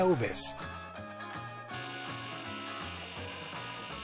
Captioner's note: buzzing of flies